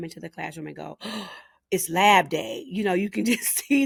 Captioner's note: gasping